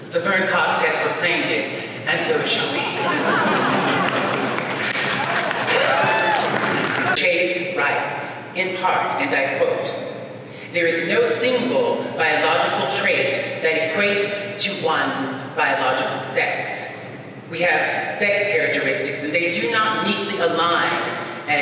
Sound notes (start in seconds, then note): 2.6 audience laughs